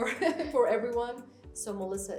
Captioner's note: laughs